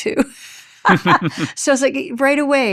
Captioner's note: chuckles